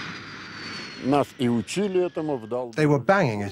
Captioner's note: speaking Russian